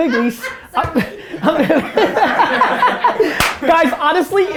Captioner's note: group laughter